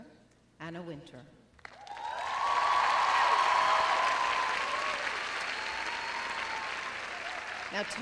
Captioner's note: cheering and applause